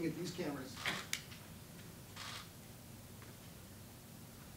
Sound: cameras shuttering

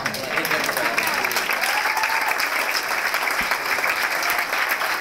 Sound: applause

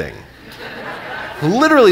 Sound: audience laughing

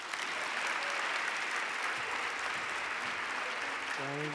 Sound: audience clapping

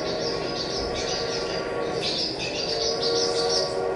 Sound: train horn

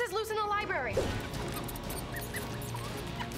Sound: squeaking

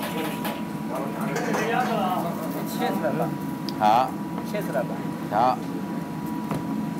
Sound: ambient kitchen noise/speaking Chinese

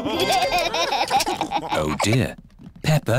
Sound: laughter

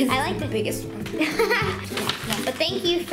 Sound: laughs

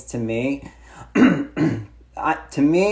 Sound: clears throat

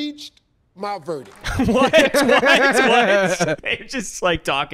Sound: laughs

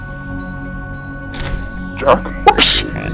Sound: door opens; alien noises

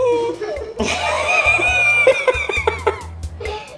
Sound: laughing

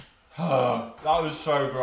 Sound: groan of relief

